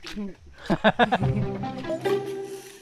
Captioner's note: laughs